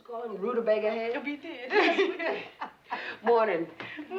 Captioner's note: laughs